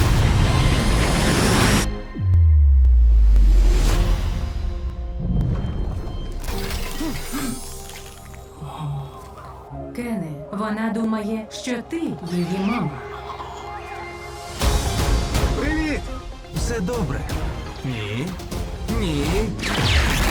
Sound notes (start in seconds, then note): 3.7 mysterious music plays; 6.3 gasping; 7.0 gasps; 9.5 robotic voice; 12.2 cooing